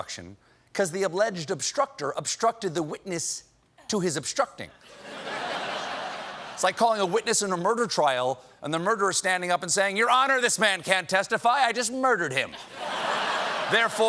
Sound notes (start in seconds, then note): 4.8 laughter